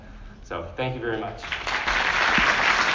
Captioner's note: applause